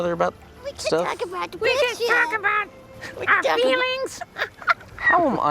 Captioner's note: mockingly